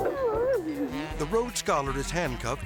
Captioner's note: driver sobbing